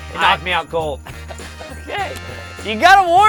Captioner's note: laughs